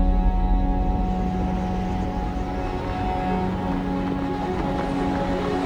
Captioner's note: low rumbling, the sound of rockfall